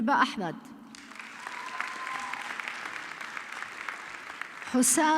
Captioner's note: audience clapping